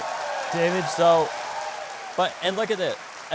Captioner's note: crowd applauds